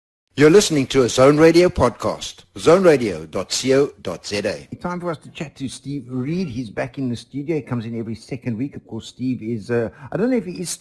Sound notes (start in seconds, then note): 0.1 podcast voiceover